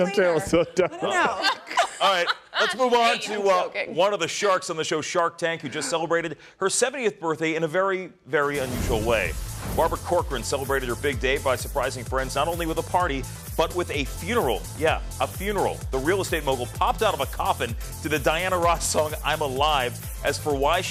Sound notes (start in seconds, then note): 5.6 laughter